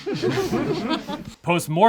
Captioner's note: group laughs